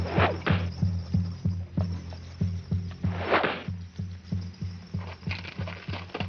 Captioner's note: tense music; arrow swooshing